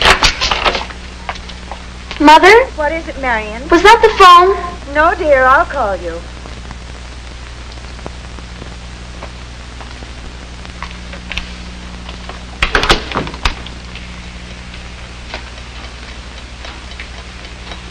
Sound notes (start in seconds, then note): 12.6 door shuts; 15.4 clock ticking